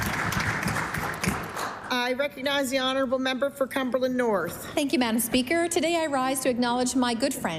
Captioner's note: applause